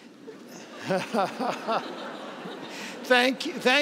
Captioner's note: laughs